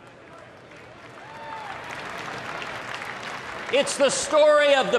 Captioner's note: applause